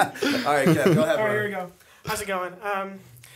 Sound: chuckle

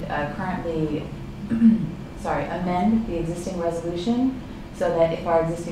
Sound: clears throat

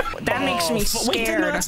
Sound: lower pitch

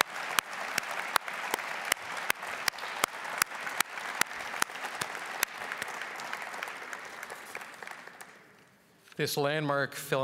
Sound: applause

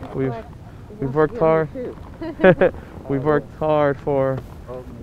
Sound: laughing

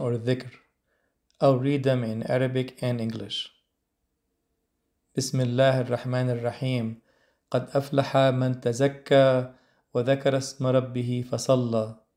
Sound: Arabic

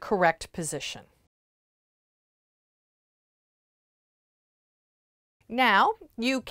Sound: no Sound Present

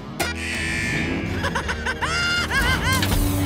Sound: laughing

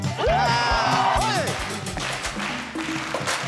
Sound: vocalizing; audience clapping; rhythmic music

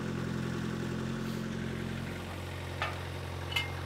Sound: motor humming

